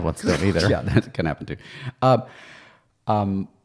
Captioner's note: laughing